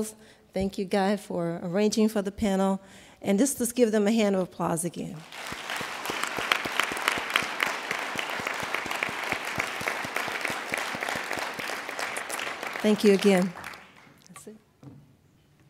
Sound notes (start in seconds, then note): 5.2 applauding